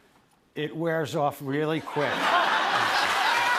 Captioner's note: laughter